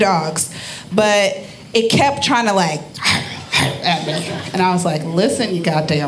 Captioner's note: growling